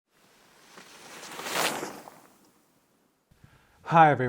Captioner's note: air whooshing